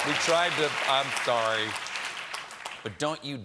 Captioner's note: applause